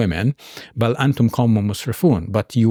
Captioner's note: speaking in Arabic